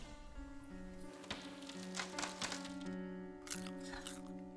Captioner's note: tree branch creaking; Becca crunches popcorn